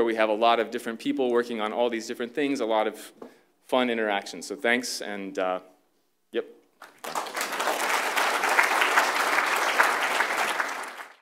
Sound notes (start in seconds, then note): 6.8 applause